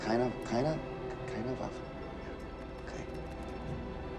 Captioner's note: Sinclair speaking in foreign language